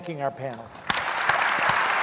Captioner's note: applause